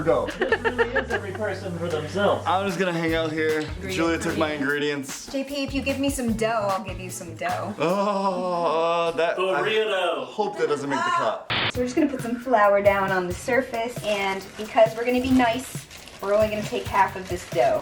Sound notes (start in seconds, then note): 0.1 laughs; 7.7 sarcastic laughing/groaning